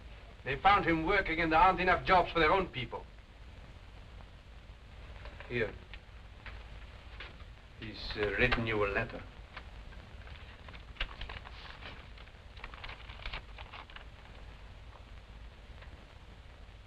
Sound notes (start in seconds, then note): none